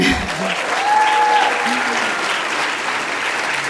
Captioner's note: applause